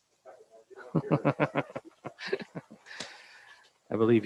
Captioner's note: faintly speaking